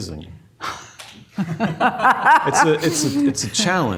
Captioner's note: laughs